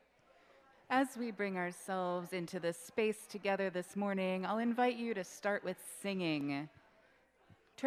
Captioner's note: on microphone, off-screen